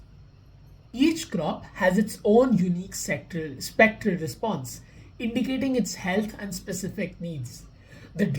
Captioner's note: voice-over